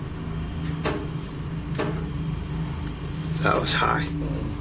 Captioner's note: loud knocking